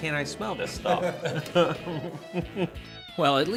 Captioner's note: laughing